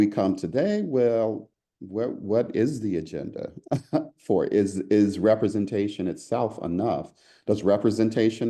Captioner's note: laugh